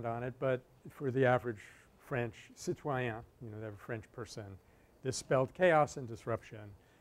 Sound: French

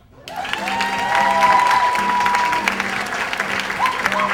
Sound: audience cheers; audience applauds

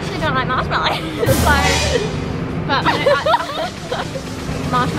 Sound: laughter

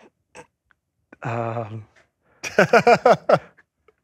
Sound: laughs

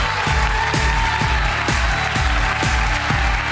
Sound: upbeat music; yelling

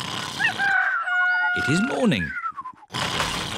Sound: cockerel crows

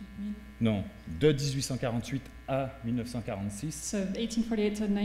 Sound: speaking french

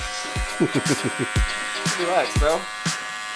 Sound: laughing

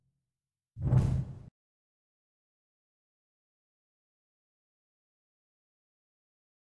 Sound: whoosh

